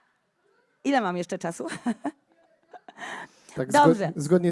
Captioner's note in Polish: śmiech